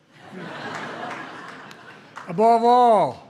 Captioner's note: laughter